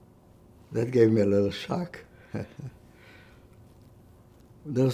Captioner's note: laughing